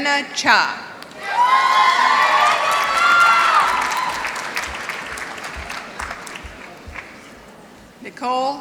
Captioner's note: applause